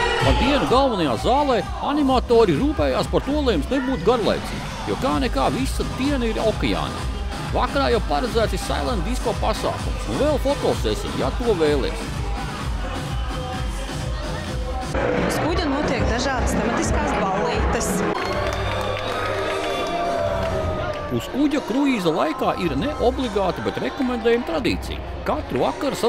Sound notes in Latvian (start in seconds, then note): 18.1 Aplausi